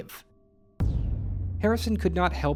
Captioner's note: bang